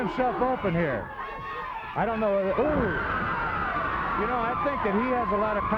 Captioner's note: blows thudding